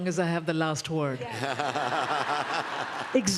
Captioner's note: laughter